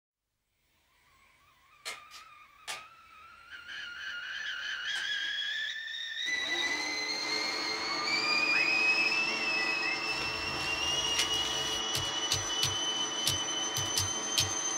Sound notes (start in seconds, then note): 1.1 switches clicking; 2.7 kettle whistling; 6.2 projector whirring; 9.2 whistling; 11.8 buttons clicking